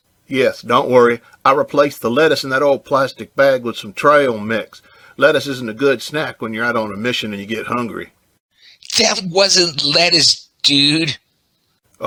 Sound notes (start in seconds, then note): none